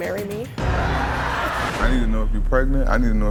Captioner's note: audience shouting